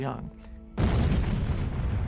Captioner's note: booming